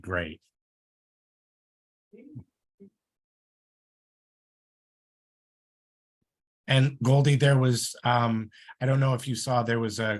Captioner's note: muted